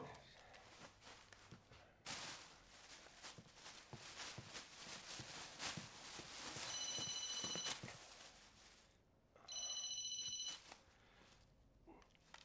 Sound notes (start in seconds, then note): 6.1 phone rings